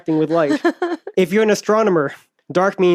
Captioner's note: laughs